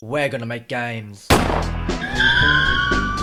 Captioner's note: gunshot